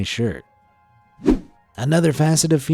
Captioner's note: image whooshing